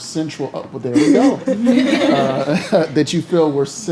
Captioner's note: laughter